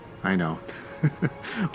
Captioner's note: laughter